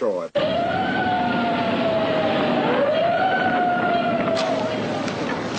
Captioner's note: sirens